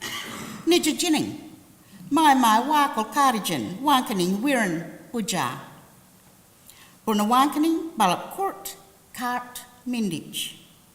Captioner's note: language spoken